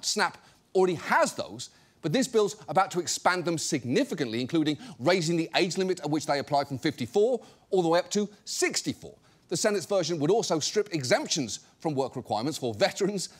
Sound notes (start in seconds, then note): none